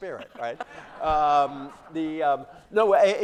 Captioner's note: laughter